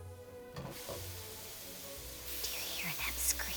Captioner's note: oil sizzling